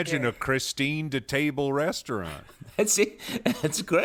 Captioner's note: laughing